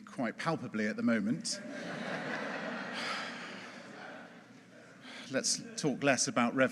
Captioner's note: audience laughing